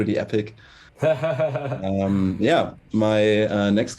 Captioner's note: laughs